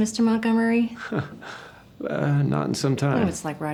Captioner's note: chuckles